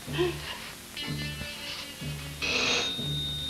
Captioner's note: john sobs